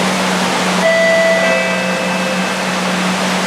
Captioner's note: station chime